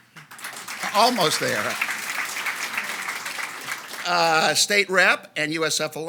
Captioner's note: audience applauds